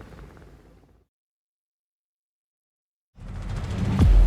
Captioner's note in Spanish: helicóptero zumbando